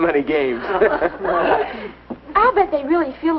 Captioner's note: laughing